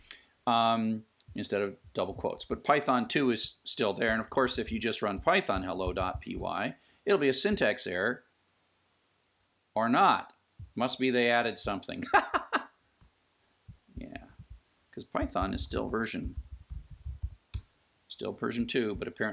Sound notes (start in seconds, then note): 12.0 laughs